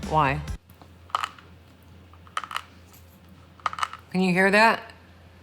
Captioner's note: jaw clicks